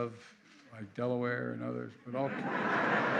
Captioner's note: laughter